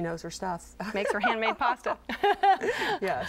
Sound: laughter

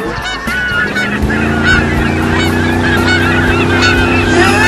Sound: motorboat Vrooming

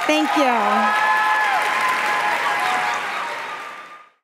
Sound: applause

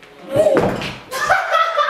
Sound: laughs

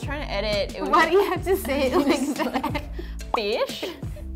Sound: laughs

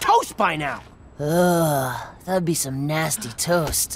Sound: sighing

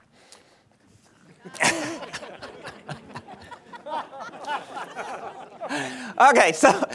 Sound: laughter

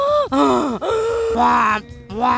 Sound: heavy breathing; loud gasps

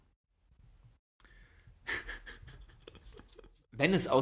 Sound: laughs

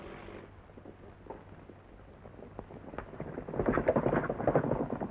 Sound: horse hooves clomping

